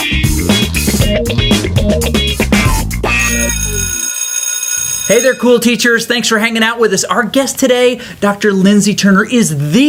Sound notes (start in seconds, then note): 3.1 school bell rings